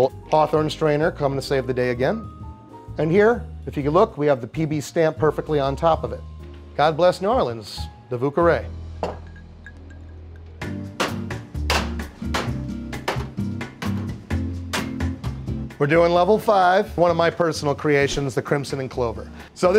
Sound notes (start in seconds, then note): 9.0 glass thudding; 10.9 bottles clacking; 10.9 cheerful music